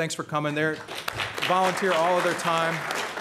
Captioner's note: applause